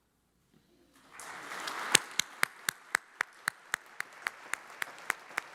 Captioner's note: audience applauds